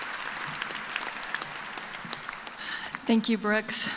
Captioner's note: cheers and applause